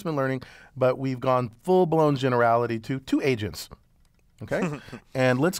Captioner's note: laugh